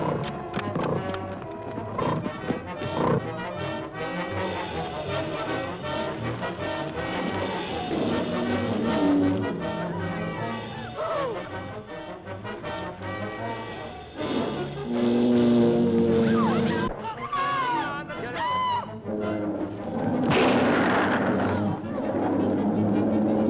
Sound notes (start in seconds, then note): 1.6 armadillo grunting; 3.5 dramatic music; 10.9 Pat screams; 13.5 dramatic music; 13.5 lizard bellowing; 18.3 all screaming; 18.4 dramatic music; 18.4 lizard bellowing